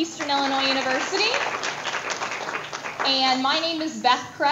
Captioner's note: audience applause